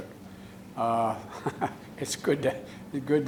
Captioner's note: laughs